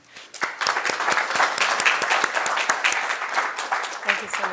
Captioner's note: audience clapping